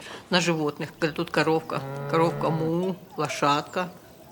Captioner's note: cow mooning; cow bell